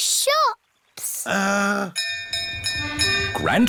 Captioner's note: bell rings